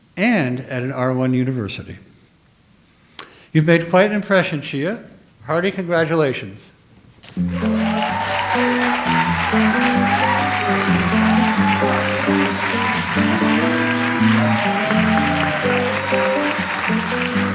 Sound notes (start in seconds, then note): 7.5 audience applauds; 7.5 audience cheers; 9.7 light jazz music